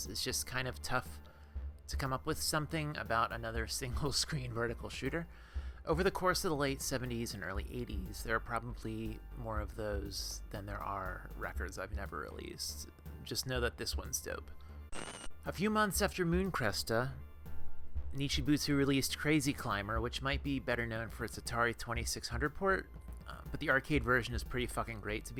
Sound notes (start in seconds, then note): 14.9 static